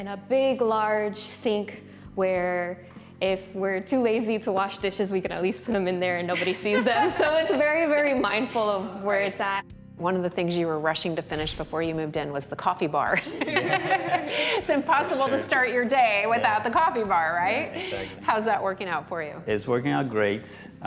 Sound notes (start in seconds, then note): 13.1 laughter